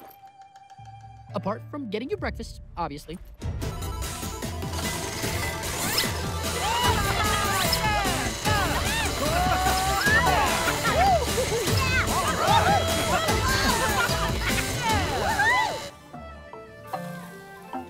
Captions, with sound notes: Apart from getting your breakfast, obviously. [upbeat music playing] [all whooping and exclaiming] [tranquil music playing]